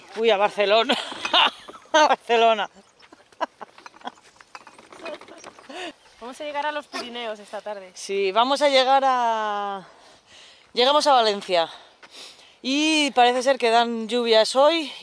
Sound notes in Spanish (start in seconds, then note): 0.9 risas